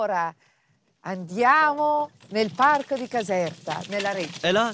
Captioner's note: speaks in Italian